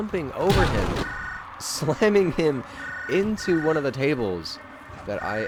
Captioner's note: phone ringing